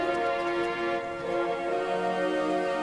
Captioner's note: water running